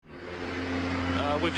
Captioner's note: plane engine whirrs